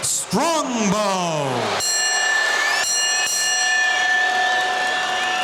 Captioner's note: bell ringing